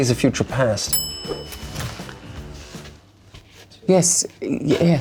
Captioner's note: bell dings